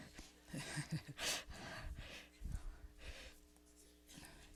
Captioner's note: laughs